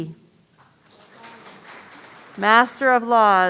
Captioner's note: audience applauding